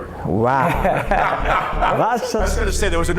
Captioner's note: laughter